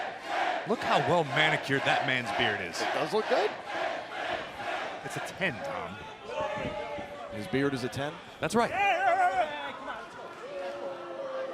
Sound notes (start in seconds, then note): 5.0 crowd cheering